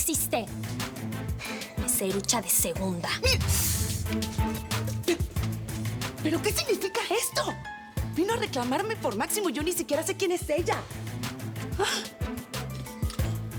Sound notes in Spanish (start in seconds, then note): 3.3 Exclamación de ira